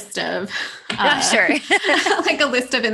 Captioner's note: laughter